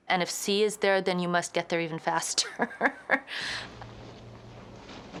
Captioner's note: laughs